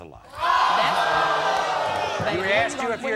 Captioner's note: audience oohs